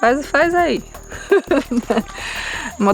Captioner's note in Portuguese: risos